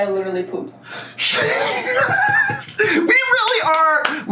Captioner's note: laughs